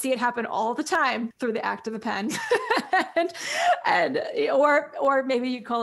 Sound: laughs

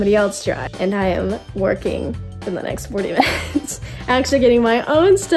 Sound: laughs

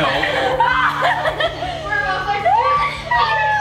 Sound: laughs

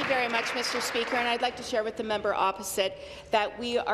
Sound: applause

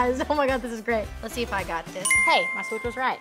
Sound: correct ding noise

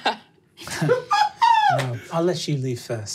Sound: laughs

